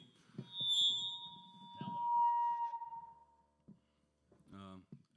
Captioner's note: microphone screeches